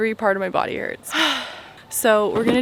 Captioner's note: exhales